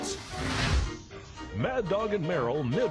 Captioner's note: fire whooshes